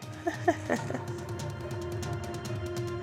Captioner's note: laughs